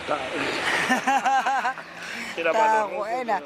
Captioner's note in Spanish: Risas